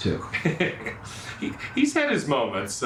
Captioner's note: laughing